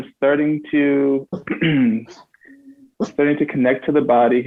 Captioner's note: clears throat